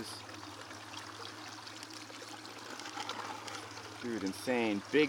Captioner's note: water splashing